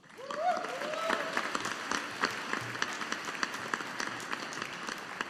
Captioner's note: audience applauding